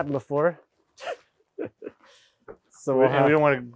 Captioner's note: speaker laughing